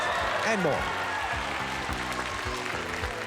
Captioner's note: cheers and applause